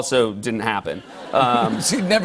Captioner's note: laughter